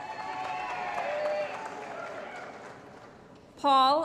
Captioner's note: applause & Cheering